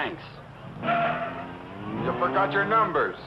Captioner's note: tires screeching